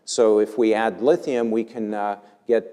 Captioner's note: none